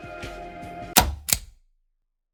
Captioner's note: click